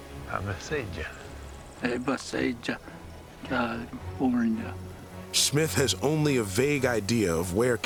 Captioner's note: speaking mohave